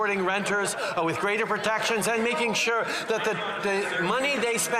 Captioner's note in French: voix de l'interprète